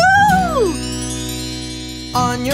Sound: bells chime

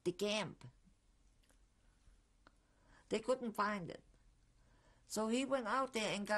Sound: pauses for 3 seconds

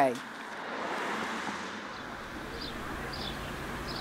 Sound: engines humming; birds chirping

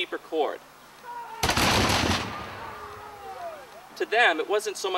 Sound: gunshots

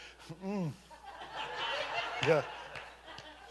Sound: congregation laughing

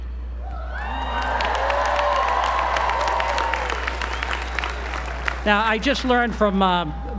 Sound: applause

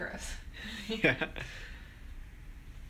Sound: laughs

